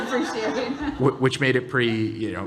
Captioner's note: audience laughing